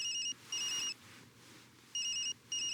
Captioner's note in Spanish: Suena el celular